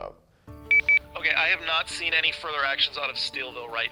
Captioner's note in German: Voiceover